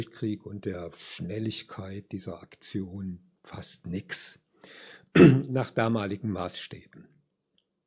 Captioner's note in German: räuspern